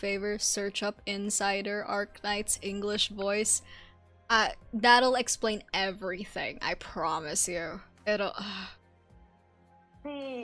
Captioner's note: sighs